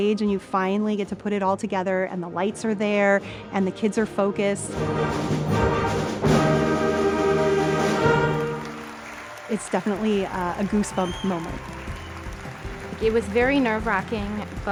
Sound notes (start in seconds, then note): 5.0 lighthearted music continues; 8.5 audience applauding